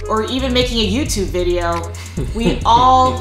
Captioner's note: laughter